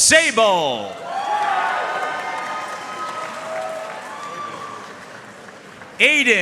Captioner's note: audience cheering and applauding